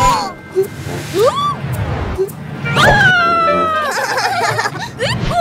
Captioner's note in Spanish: Risas